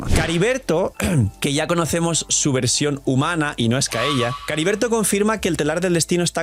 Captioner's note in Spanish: carraspeo